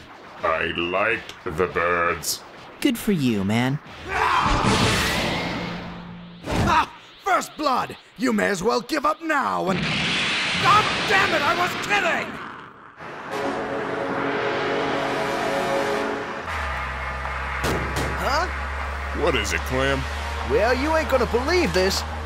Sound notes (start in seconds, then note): 17.5 thump, thump!